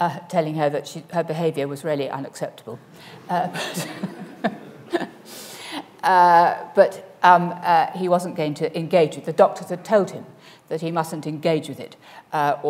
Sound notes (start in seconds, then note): 3.4 laughs